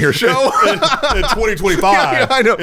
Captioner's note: everyone laughs